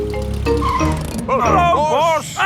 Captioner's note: brakes squeal